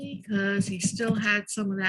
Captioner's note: none